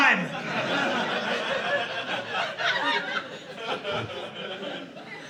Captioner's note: audience laughing